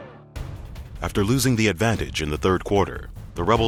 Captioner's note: voiceover